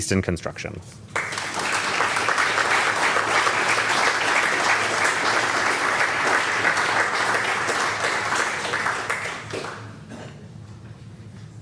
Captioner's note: applause